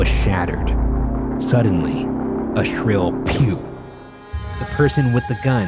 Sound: silenced gun firing

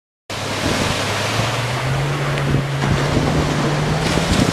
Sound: waves splashing

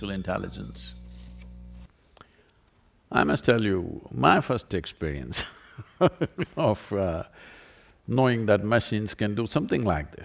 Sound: laughs

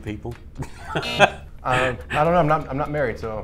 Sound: buzzer

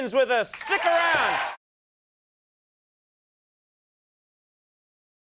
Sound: audience cheering

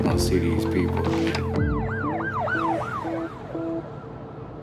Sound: sirens blaring

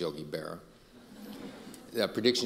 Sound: audience laughing

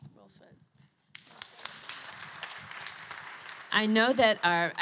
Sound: applause

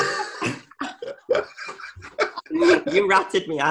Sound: all laughing

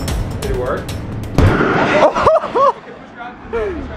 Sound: plug pops

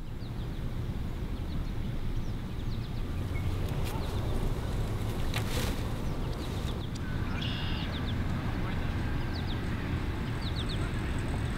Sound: bird song, background nature sounds

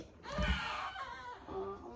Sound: crying

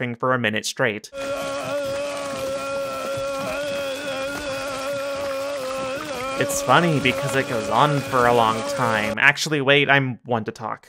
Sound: vomiting

